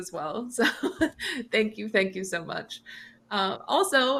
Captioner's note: chuckles